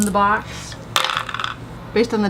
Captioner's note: shaking dice